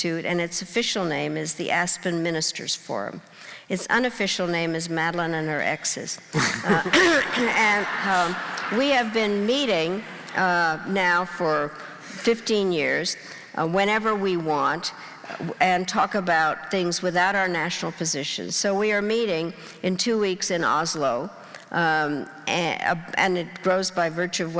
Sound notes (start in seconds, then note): 6.3 laughing